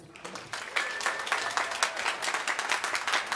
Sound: applause

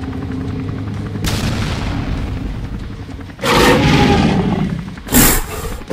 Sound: explosion Sounds; T-Rex Growls

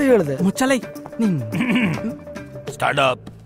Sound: coughs

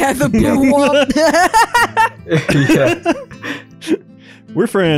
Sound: everyone laughs

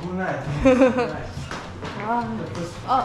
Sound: laughing but not laughing

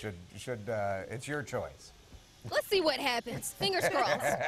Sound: laughter

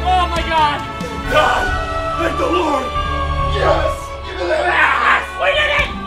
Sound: hollering

